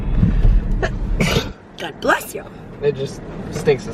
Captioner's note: sneezes